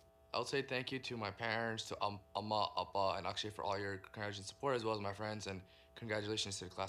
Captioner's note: speaking in native language